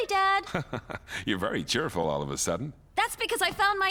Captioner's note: chuckling